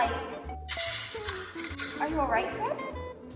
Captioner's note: glass falling